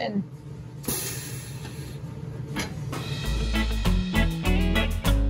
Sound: machine hisses

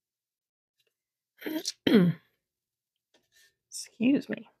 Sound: clears throat

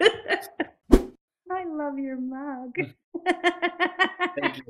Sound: laugh; whoosh; laughs

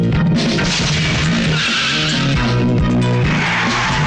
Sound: tires squealing

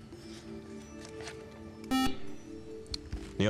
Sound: beep

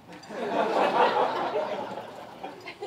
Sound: laughter

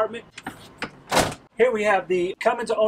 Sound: door slamming shut

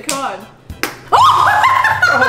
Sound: shouts; both laughing

